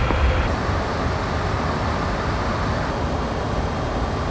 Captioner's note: plane engines roaring